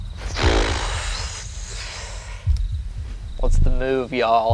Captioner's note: sighs